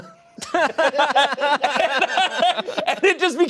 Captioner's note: laughing